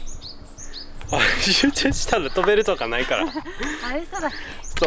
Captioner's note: laughs